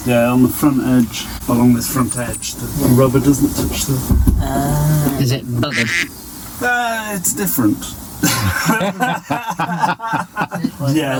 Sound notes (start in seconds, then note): 5.6 sound of duck quacking over the word buggered